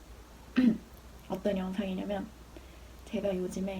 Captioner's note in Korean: 목 가다듬고